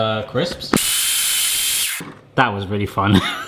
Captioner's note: blender buzzing